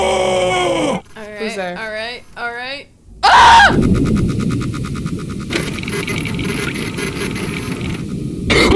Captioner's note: x-ray processing sound